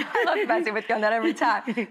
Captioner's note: audience laughing